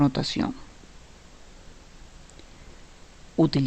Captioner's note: no audio